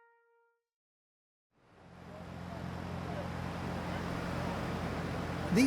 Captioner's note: noise of people getting on buses